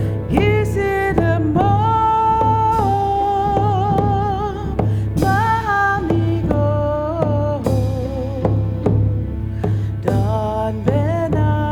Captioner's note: In Mi’kmaq